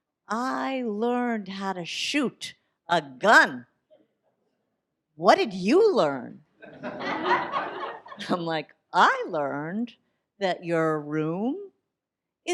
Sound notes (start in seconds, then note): 6.6 audience laughs